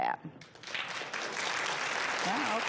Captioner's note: audience applause